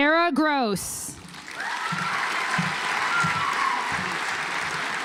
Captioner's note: audience applauds